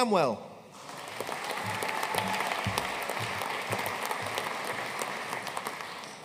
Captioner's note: audience cheering and applauding